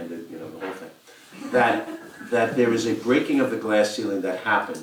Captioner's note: laugh